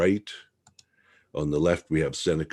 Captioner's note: mouse clicking